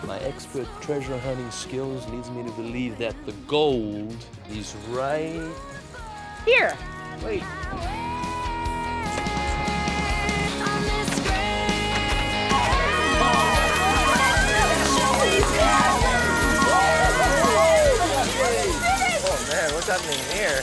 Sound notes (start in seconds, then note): 8.5 pop music; 10.3 coins dropping; 14.2 yelling